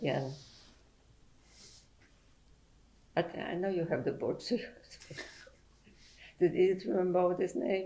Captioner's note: pauses for 3 seconds